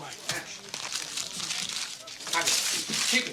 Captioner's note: crumple crumple woosh!